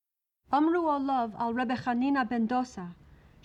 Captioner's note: yentl reading in hebrew